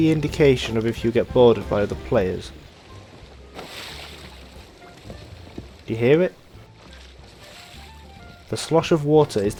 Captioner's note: water sloshing